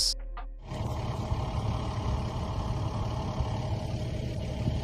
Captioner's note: car engine idling